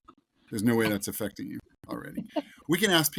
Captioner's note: host laughs